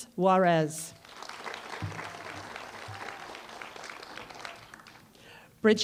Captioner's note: applause